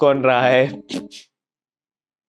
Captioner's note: laughing